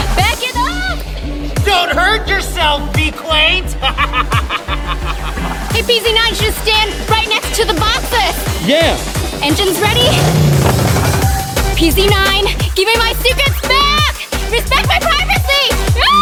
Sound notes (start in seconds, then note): 3.9 manic laughing; 10.4 engines revving